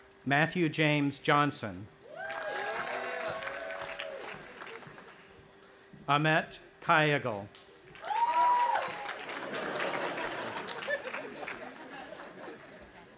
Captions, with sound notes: Matthew James Johnson. (audience applauding and cheering) Ahmet Kayagil. (audience applauding and cheering) (audience laughing)